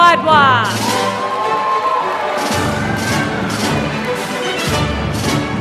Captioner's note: applause